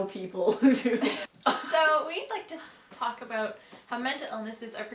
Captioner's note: laughing